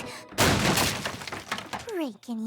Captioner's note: crash!